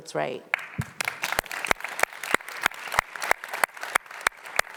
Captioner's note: audience applauding